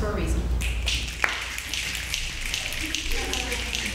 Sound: snapping

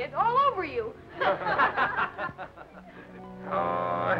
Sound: all laugh

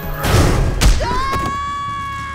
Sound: screaming

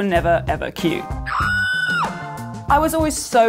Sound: screaming

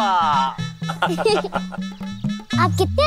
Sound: laughter

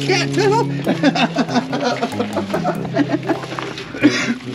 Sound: laughs

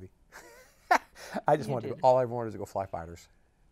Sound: laughs

